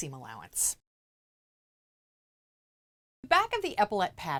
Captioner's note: no Sound Present